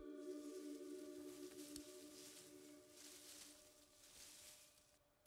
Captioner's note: leaves rustling